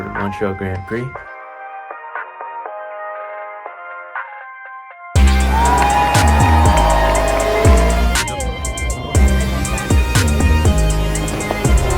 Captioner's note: applause